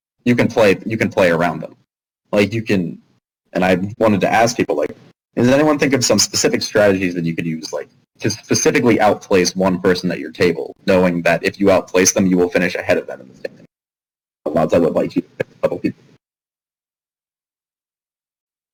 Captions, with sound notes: you can play- you can play around them. Like you can- and I wanted to ask people like does anyone think of some specific strategies that you could use like to specifically outplace one person at your table knowing that if you outplace them you will finish ahead of them. [static]